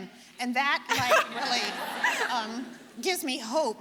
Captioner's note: audience laughing